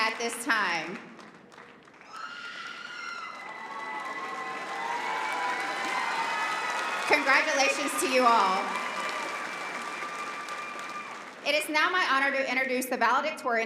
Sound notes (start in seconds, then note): 3.8 applause